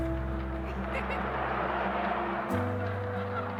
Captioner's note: laughter in recording; recording noise; cars passing; sad music